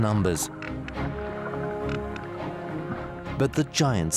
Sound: whales clicking

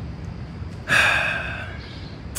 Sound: Aaron sighing

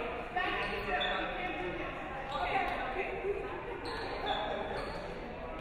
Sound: shoes squeaking

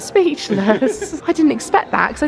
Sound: laughs

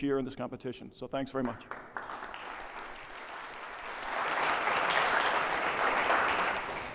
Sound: applause

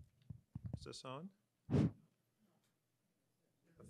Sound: blows

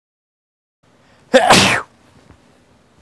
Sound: sneeze

